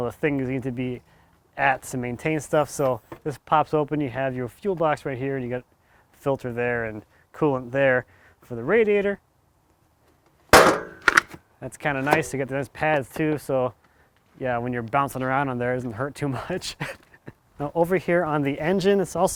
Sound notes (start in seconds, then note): 10.5 metal clunking; 17.2 laughs